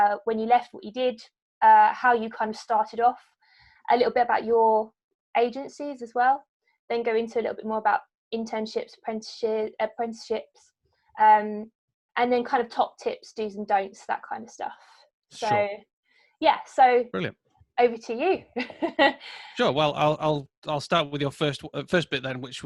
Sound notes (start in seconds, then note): 19.6 laughing